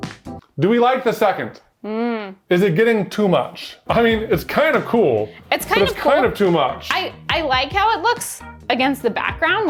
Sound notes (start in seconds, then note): 2.0 humming